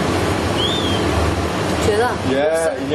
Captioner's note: whistling